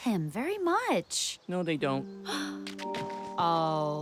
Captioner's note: sobs